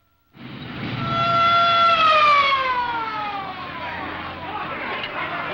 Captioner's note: siren wailing